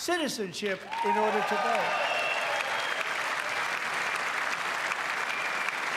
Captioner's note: cheers and applause